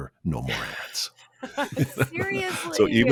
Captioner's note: laughs